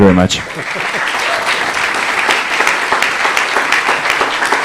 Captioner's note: laughter, applause